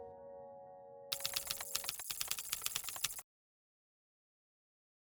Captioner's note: keyboard clacking